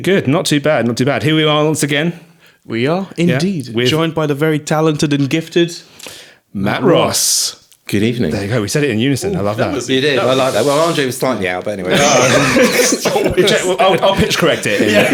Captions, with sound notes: Good, not too bad, not too bad. Here we are once again. We are indeed. We're joined by the very talented and gifted, Matt Ross. Good evening. There you go, we said it in unison, I love that. You did, I like that. Well, Andre was slightly out, but anyway. (laughing) I'll pitch correct it.